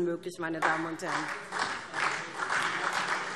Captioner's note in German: Beifall SPD